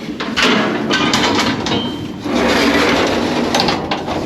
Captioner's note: door thuds; door whirs